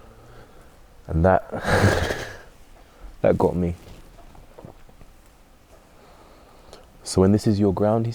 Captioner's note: laughs